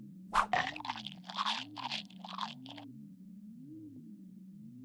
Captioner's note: Goofball munching